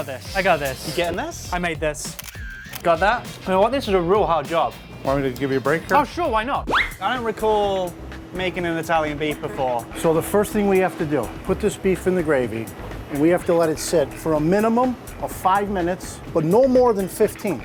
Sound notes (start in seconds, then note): 2.0 camera shutter; 6.7 comical squeak